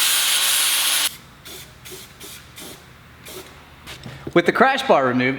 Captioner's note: spray painting